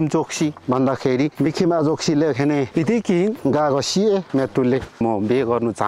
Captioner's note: limbu dialect